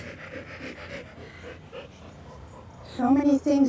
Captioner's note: dog pants